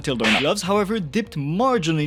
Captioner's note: shush